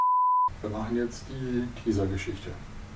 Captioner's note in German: Aus dem Off